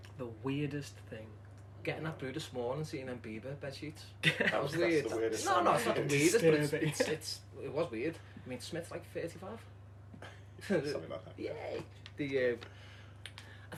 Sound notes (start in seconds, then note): 4.2 laughter